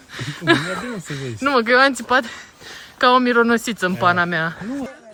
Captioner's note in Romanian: râsete